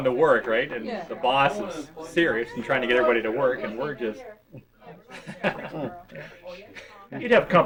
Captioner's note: laughs